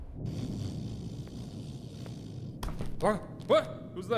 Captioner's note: Sargon snoring